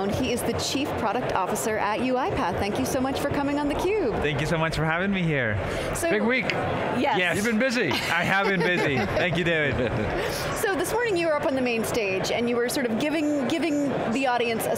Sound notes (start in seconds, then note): 7.9 laughs